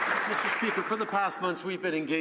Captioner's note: some Applause